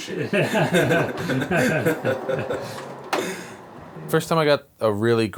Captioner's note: laughter